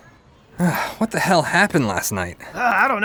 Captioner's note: Earthworm Jim groans; sighs